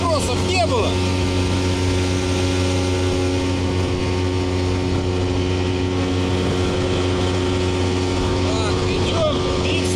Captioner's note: engine sounds